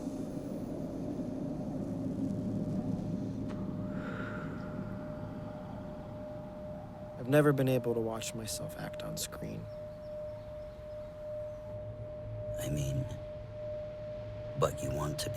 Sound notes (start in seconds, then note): 0.8 wind howling